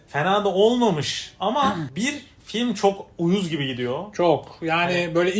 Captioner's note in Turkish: boğazını temizler